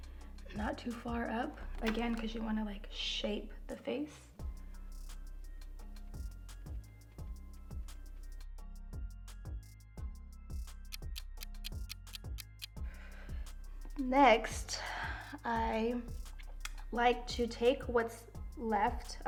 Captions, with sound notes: not too far up again 'cause you want to like shape the face. [gentle music] [clock ticking] Next, I like to take what's left of the contour